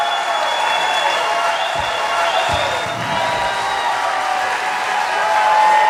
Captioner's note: applause